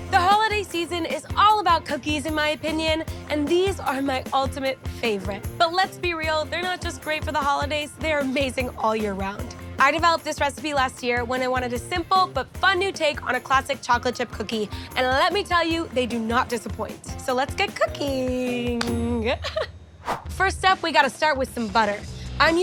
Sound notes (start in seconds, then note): 19.2 giggles; 20.0 screen whooshing